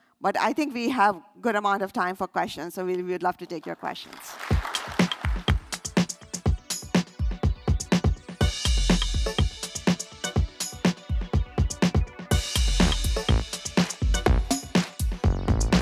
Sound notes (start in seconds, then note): 4.0 applause